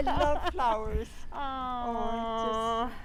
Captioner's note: laughter